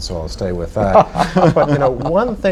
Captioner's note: laughter